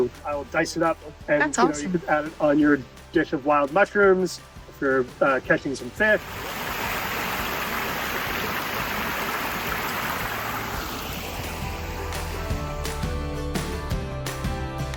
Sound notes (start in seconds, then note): 6.9 waterfall pouring; 12.2 bright music